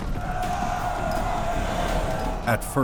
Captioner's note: screams; cheering